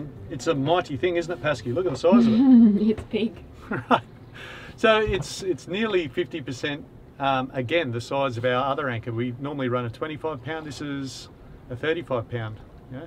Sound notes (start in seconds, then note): 2.1 laughing